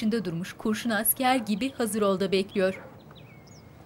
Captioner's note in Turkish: Kuş sesleri